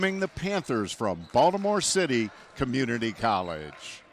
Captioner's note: crowd noise